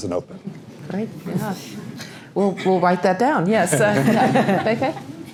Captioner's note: laugh